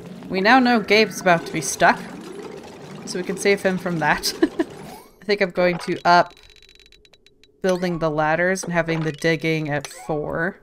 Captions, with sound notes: We now know Gabe's about to be stuck. So we can save him from that *laughs* I think I'm going to up building the ladders and having the digging at four.